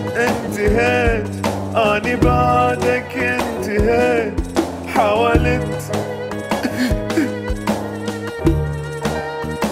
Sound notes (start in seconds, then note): 6.4 fake sobbing